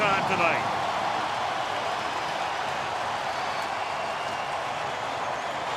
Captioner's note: cheering